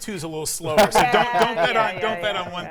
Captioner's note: laughs